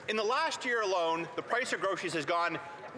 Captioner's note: some Applause